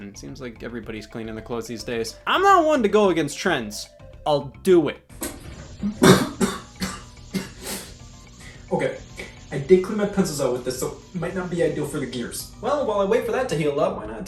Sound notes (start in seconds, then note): 6.0 coughs